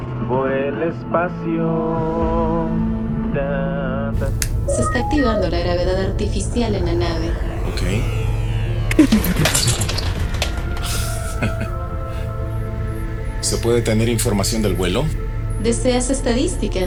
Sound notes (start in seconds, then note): 0.2 singing; 4.4 clicking control sounds; 10.6 pressurized sound